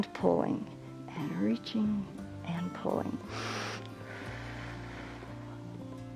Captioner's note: inhales and exhales